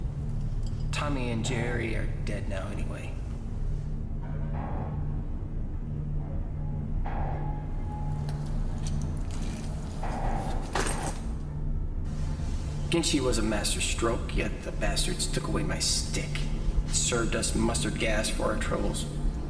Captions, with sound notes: Tommy and Jerry are dead now anyway. (ominous music) (pipes clanking) Gentsy was a master stroke, yet the bastards took away my stick, served us mustard gas for our troubles.